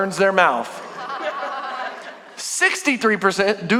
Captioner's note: congregation laughing